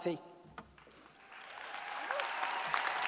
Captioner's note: cheers and applause